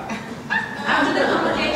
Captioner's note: audience laughter